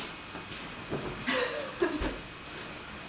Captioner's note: nervous laughter